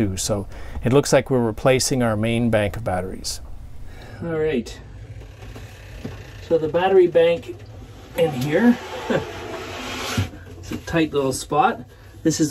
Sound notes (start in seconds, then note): 5.0 door opens